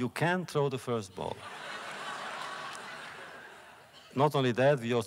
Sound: laughter

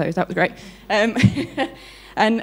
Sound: laughs

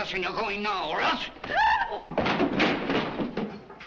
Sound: Hilda gasps

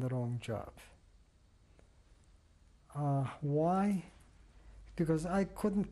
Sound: pauses for 3 seconds

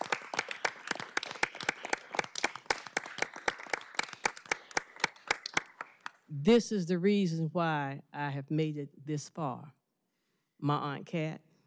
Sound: applause

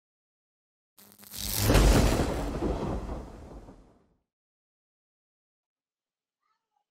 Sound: electricity crackles; thunder roars

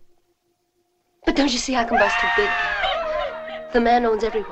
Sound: screaming

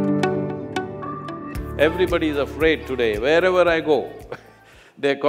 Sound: laughs

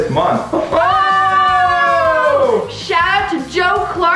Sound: both shout

